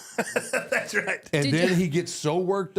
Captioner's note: laughs